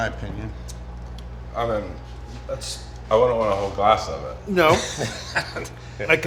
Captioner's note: laughs